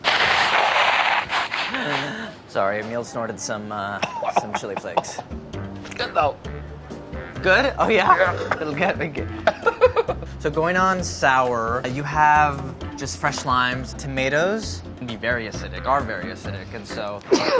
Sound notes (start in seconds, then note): 7.9 laughs